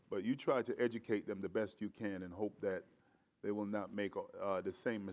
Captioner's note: none